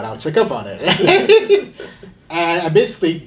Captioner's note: laughter